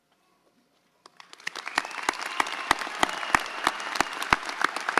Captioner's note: audience applauds